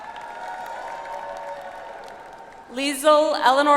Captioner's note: audience applauds